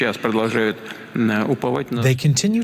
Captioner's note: through translator